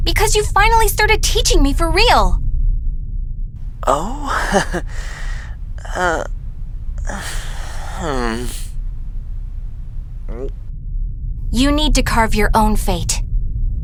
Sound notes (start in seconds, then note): 7.1 chuckling awkward